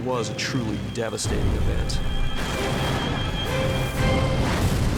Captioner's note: explosions